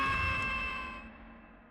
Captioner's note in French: sifflet